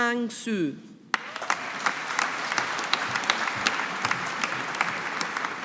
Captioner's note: audience applauding